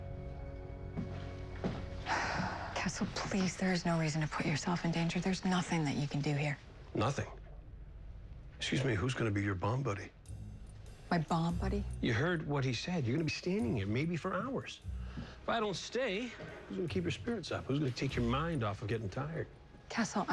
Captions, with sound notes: I APPRECIATE IT. I'M STAYING. (sighs) CASTLE, PLEASE. THERE IS NO REASON TO PUT YOURSELF IN DANGER. THERE'S NOTHING THAT YOU CAN DO HERE. NOTHING? EXCUSE ME. WHO'S GONNA BE YOUR BOMB BUDDY? MY BOMB BUDDY? YOU HEARD WHAT HE SAID. YOU'RE GONNA BE STANDING HERE, MAYBE FOR HOURS. IF I DON'T STAY, WHO'S GONNA KEEP YOUR SPIRITS UP? WHO'S GONNA TAKE YOUR MIND OFF OF GETTING TIRED?